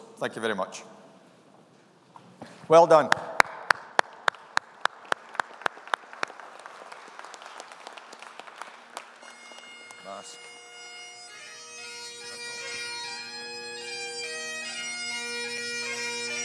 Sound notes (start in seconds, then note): 3.5 applauds; 4.5 audience applauding; 8.8 piper plays bagpipes